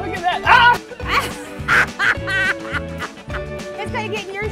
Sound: laughter

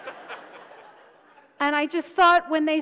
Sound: audience laughs

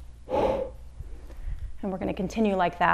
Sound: exhales deeply

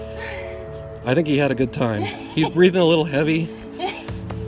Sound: laughter

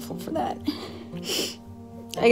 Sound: sniffles

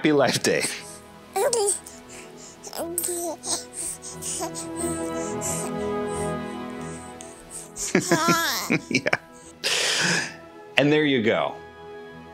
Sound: happy sounds

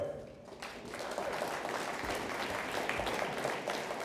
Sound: audience applauds

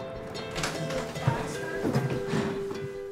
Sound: door opens

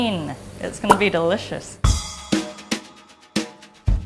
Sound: smacks lips

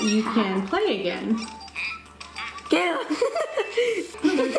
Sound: laughing

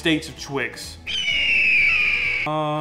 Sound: eagle squeaking

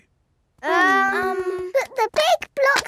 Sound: children hesitating

